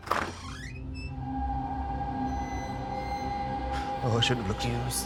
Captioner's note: creaking